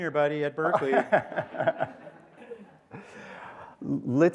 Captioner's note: laughter